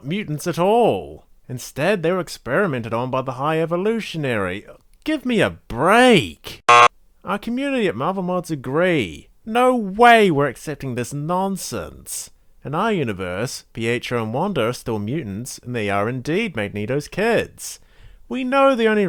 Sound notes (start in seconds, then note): 6.6 buzzer sound